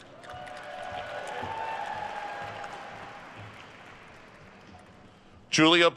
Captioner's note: attendees cheering and applauding